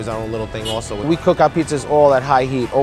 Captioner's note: car horn beeps